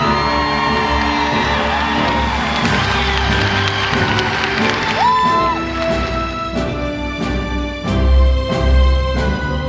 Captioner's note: applause